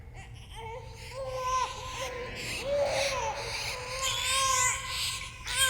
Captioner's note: baby crying and rats squeaking